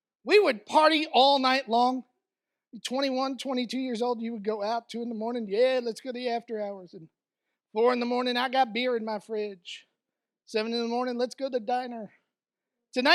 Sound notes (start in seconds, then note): none